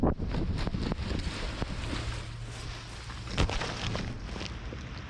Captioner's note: feet grazing against grass